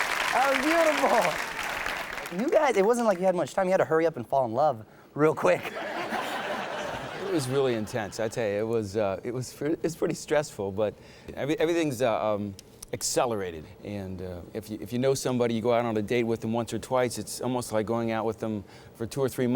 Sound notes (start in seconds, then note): 5.7 everyone laughs